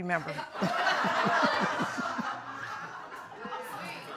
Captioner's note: audience laughing; laughs